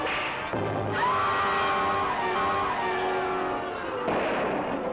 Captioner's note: Gill screams; gun fires